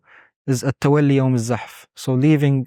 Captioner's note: speaking Arabic